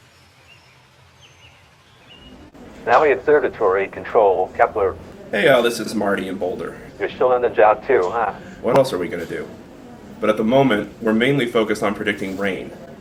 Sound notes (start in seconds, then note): 2.9 man’s voice on phone